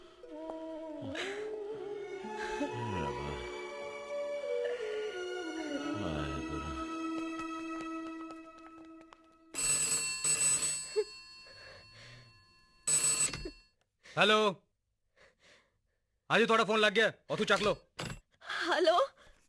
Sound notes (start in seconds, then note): 9.5 telephone Ringing